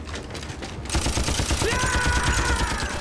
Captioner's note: yelling